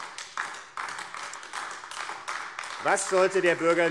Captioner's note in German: Beifall AfD